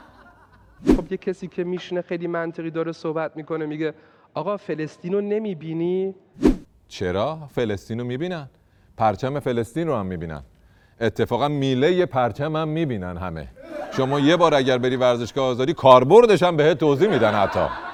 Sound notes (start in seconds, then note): 13.6 laughter